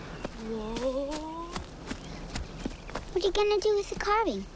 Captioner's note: leaves rustling